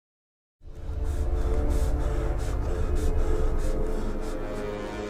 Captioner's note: rapid breathing